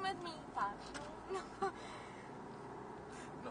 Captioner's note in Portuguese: Risos